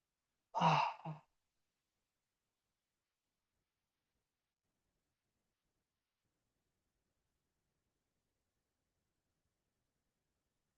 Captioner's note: pause